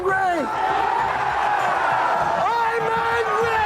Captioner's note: crowd cheers